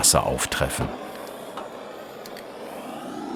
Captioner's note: hissing sound